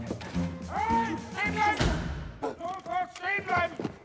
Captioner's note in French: Cris allemands